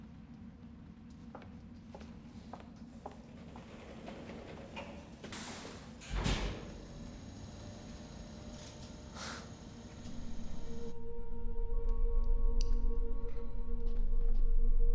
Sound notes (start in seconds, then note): 1.8 shoes clacking; 6.0 elevator thuds; 8.1 elevator whirring; 11.4 gentle ominous music